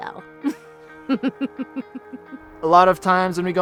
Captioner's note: laughs